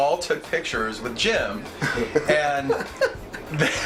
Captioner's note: laughs